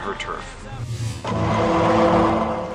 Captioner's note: law and order sound